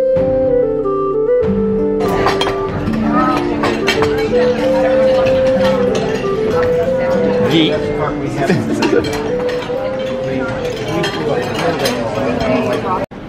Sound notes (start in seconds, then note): 2.3 plates rattling; 8.2 lols